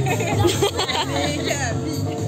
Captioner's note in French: rires